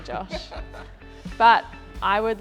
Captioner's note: laughs